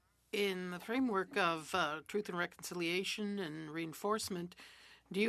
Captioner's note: speaking French